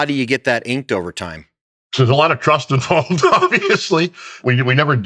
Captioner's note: laughs